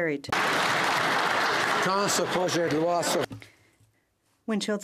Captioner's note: speaking French